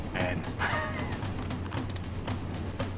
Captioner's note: laughing